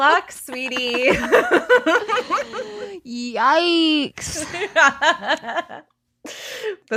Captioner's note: laughs